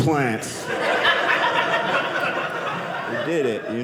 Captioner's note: audience laughing